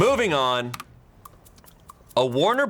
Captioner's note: button clicks